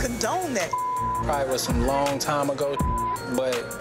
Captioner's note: beep; beep